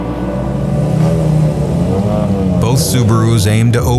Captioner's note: light music; engine revving